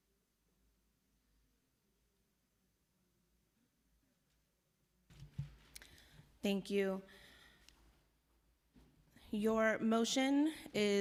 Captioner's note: silence